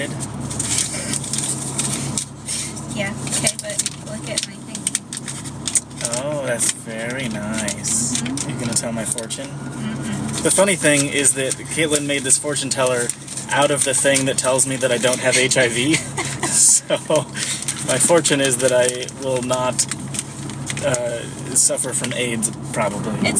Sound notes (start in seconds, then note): 1.5 laughing; 6.2 patronizingly; 15.0 laughing